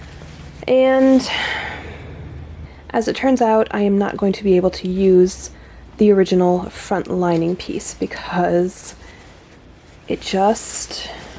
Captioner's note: sigh